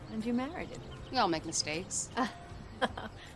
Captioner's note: laughs